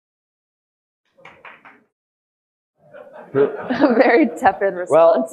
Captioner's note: audience laughing